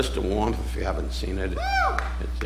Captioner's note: audience member whooping